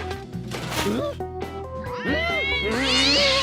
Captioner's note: yowls; whimpers; exclaims